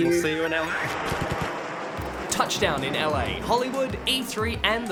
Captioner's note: plane roars